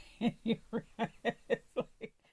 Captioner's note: laughter